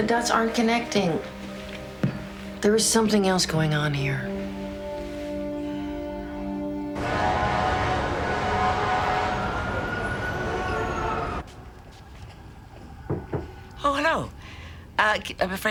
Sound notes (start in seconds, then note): 13.0 knocking